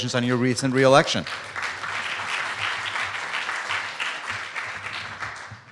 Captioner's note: applause